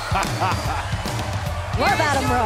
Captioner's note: bell ringing